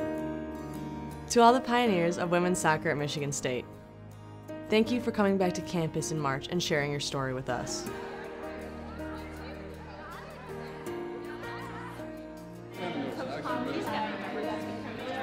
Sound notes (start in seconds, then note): 7.8 crowd murmurs; 12.4 crowd talking